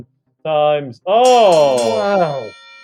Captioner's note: bell ringing